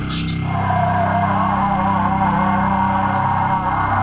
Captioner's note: Chemock roars